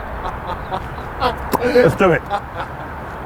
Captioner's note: makes singing noises; laughs